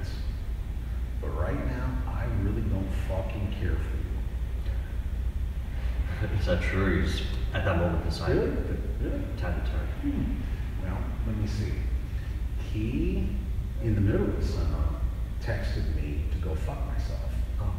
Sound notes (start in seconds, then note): 6.1 chuckles